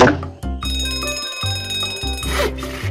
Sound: bell rings

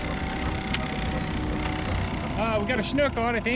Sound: boat engine idling

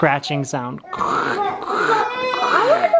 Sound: growling

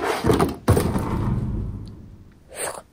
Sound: loud bang

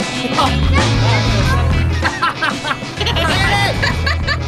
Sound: laughter

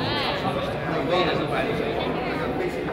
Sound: none

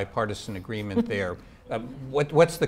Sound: chuckling

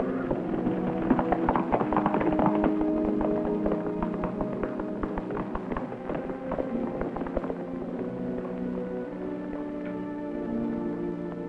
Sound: horses galloping

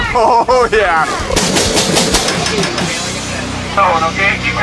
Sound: shooting gun

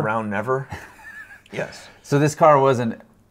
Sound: both laughing

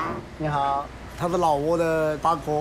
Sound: bird vocalizes

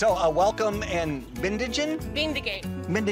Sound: speaks a foreign language

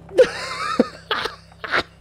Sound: laughter

